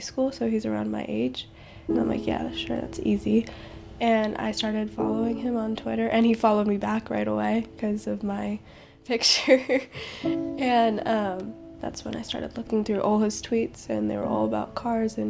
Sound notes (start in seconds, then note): 9.4 laughing